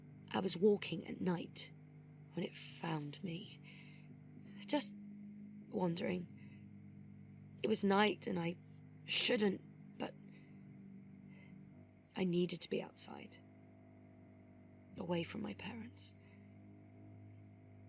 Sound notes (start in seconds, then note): none